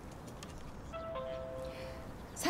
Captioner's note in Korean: 초인종 소리